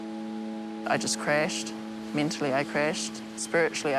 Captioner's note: none